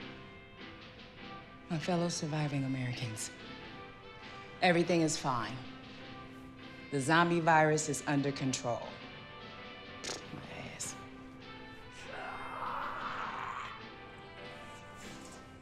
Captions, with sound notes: - My fellow surviving Americans, everything is fine. The zombie virus is under control. [scoffs] My ass. [zombie growling]